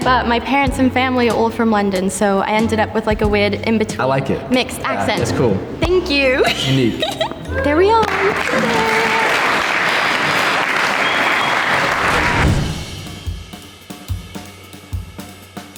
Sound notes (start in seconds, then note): 6.3 laughs; 10.6 group applauding; 12.8 dramatic music